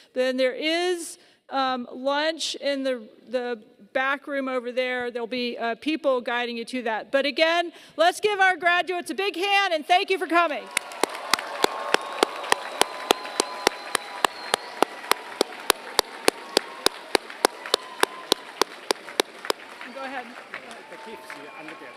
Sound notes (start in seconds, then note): 10.6 applause